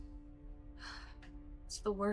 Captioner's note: Maya sighs